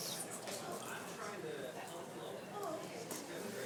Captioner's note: speaks faintly